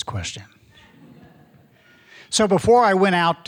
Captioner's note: audience laughing